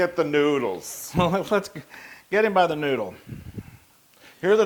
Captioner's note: laugh